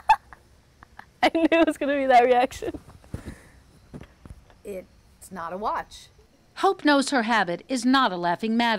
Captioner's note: laughter